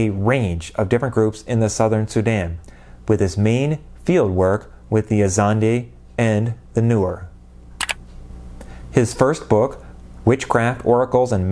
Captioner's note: mouse click